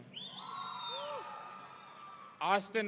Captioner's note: audience cheering